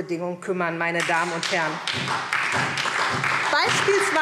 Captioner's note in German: Beifall SPD und DIE LINKE